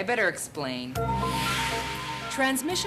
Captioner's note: whoosh